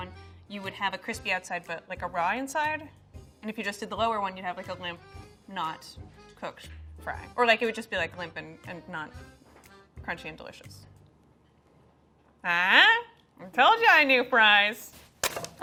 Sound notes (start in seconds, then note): none